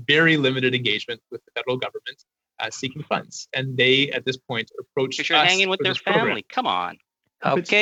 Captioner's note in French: voix de l'interprète